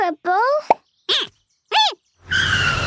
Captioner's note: squeaking